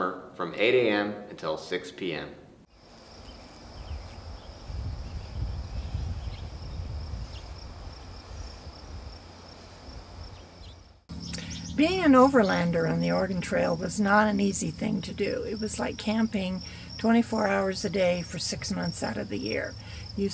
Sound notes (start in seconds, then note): 2.7 birds chirping; 2.8 crickets chirping